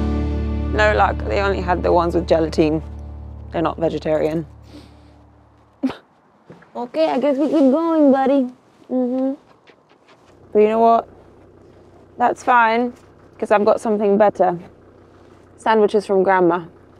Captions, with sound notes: Ah, no luck, they only had the ones with gelatin. They're not vegetarian. (sighs) Okay, I guess we keep going, buddy, mhm. But you know what, that's fine 'cause I've got something better, sandwiches from grandma.